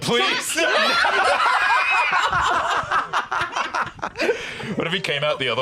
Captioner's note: all laughing